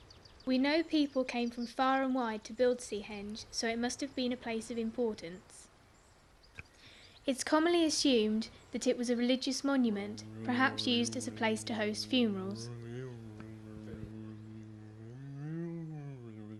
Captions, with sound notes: We know people came from far and wide to build Seahenge so it must have been a place of importance. It's commonly assumed that it was a religious monument perhaps used as a place to host funerals. [humming]